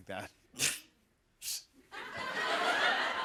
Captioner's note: scoffs; laughter